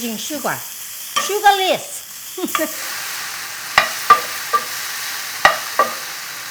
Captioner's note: chuckles